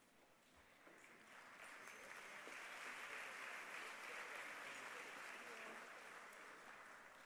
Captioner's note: applause